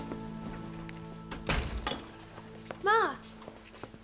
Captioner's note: door slamming